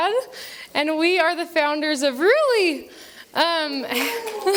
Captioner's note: applause